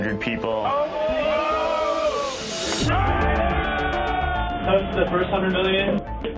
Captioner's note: cheering